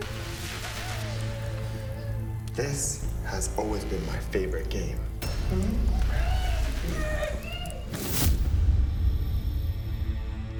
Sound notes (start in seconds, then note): 5.2 victims groaning; 8.1 dramatic music